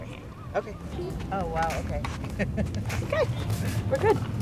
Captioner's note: laughter